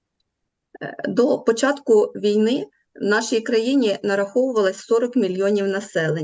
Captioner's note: foreign Language